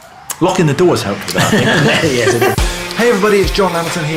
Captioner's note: laughing